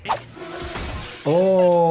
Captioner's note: glass shattering